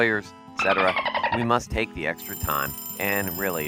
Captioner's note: clock rings